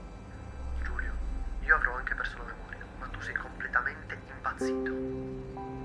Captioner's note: Ian on phone